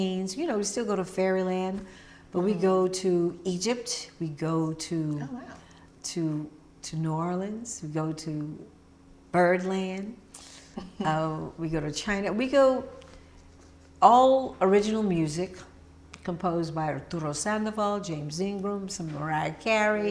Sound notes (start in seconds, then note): 10.5 laughing